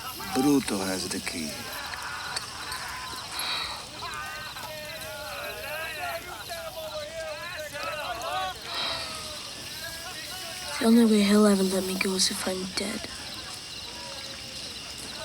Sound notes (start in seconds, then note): 3.3 Ned sighs; 4.4 gang members laugh and yell; 8.6 Ned sighs